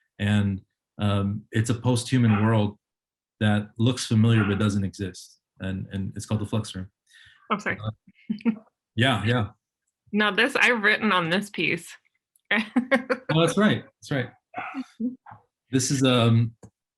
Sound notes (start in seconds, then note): 5.6 chuckles; 12.8 laughs